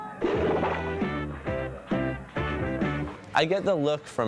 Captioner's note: splat